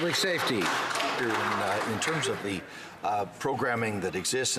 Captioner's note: some Applause